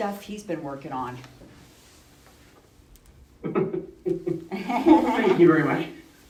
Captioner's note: laughs